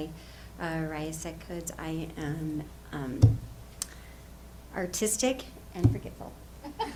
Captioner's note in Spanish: risas